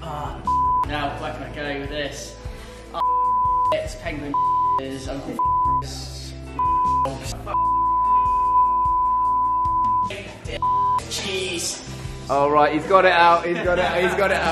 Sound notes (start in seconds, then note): 3.0 beep; 6.6 beep; 7.7 beeps continue a lot; 10.6 beep